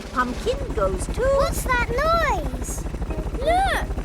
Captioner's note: helicopter approaching